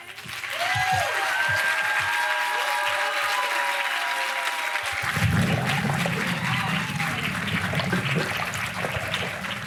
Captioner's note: applause